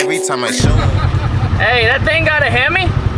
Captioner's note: men laughing